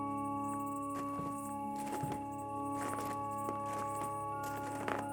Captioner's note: footsteps crunching